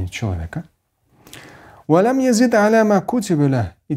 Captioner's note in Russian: Говорит на арабском